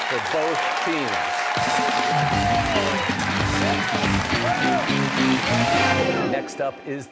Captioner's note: cheers and applause